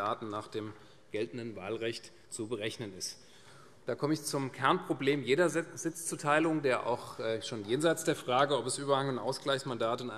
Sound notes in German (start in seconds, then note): none